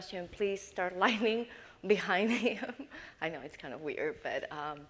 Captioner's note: laughs